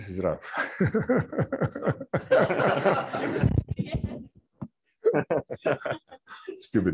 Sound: audience laughs

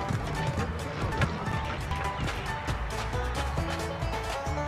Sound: steps

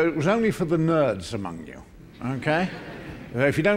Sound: laughter

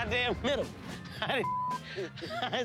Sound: laughs

